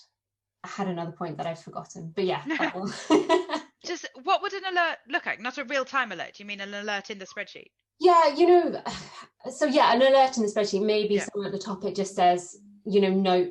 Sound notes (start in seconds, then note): 2.8 laughs